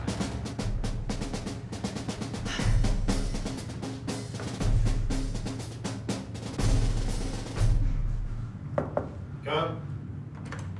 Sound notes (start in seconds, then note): 8.7 knocking